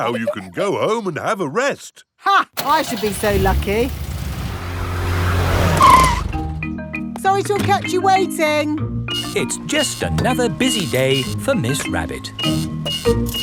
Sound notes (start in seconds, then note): 2.6 car engine starts; 5.7 brakes squeal